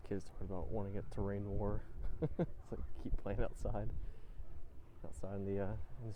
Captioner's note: chuckles